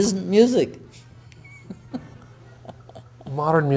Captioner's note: laughing